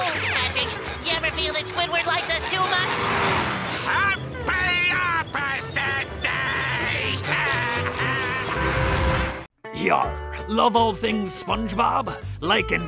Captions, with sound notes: Patrick, you ever feel that Squidward likes us too much? Happy Opposite Day! [laughing]